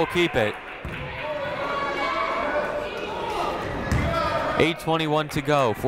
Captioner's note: people shouting in the crowd